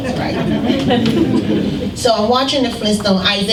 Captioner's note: laughter